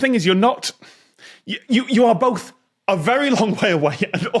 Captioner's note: laughs